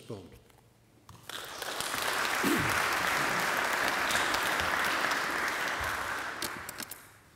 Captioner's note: applause